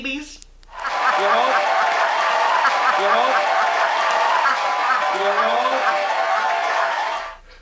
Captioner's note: laughter